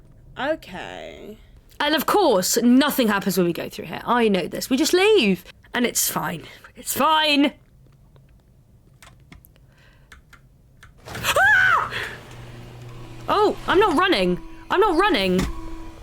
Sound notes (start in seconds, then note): 11.0 sounds of alarm going off; 11.2 screams